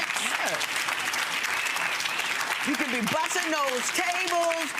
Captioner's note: audience applause